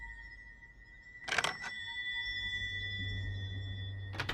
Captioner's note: scratching